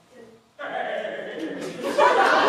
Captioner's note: chuckles